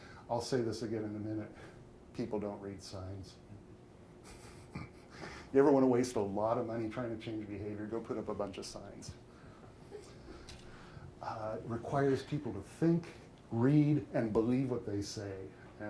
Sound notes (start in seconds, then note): 4.2 chuckles; 10.1 audience chuckling